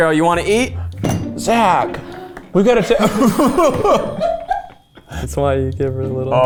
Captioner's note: all laughing